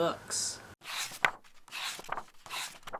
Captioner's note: pages turning